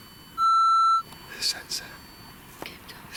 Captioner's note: beeping